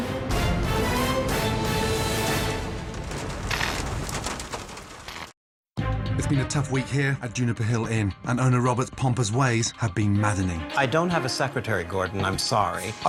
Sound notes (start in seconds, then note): 0.0 dramatic music; 2.9 lights buzzing